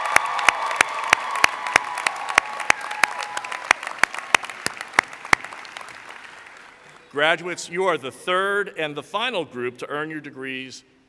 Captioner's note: cheering